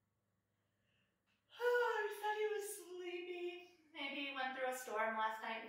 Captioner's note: yawns